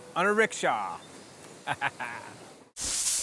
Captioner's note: chuckles